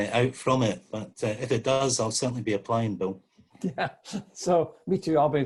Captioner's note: laughs